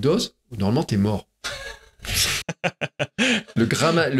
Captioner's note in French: Rires